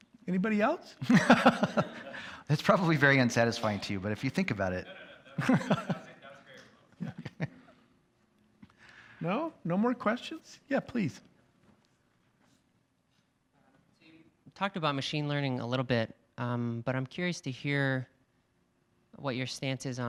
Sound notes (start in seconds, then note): 1.0 laughs; 5.1 student speaks off-microphone